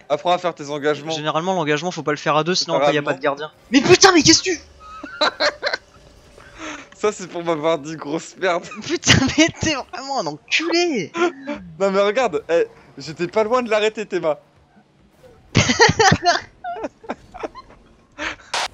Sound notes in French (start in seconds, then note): 4.8 Rires; 8.5 rire; 15.5 Rires